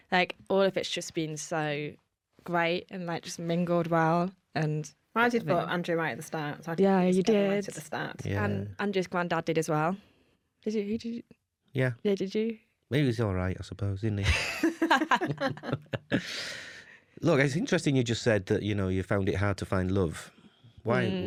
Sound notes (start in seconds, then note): 14.2 laughter